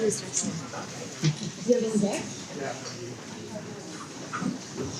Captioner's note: people chattering